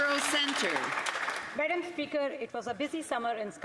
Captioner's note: some Applause